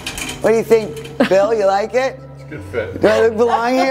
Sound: laughs; laughs

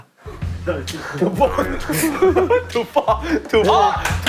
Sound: laughing all together

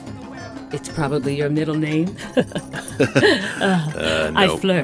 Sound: laughs

